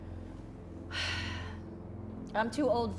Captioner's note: sighs